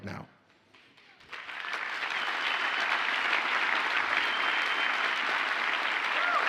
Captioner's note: audience cheers and applauds